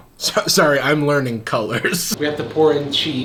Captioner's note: laughs